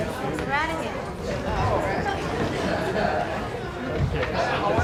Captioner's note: crowd murmuring